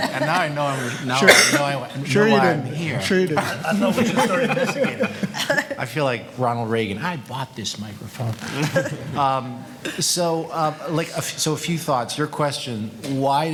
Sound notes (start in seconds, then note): 3.4 panel laughing